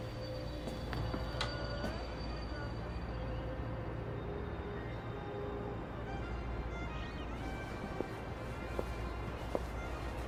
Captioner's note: radio is playing